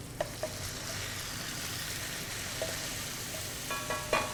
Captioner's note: pan sizzling